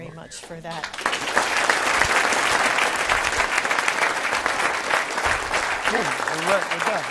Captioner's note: claps